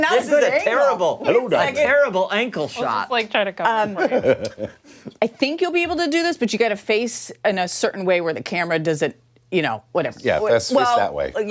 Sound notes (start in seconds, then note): 3.8 laughter